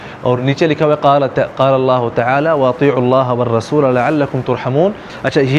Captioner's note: Arabic